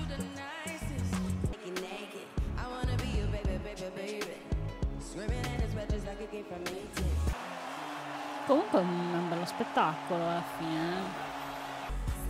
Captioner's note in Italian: Applauso